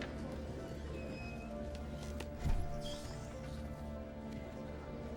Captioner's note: door creaks